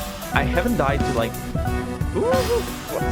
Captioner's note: excited woos